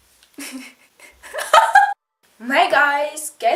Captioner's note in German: creepy Lachen 2.0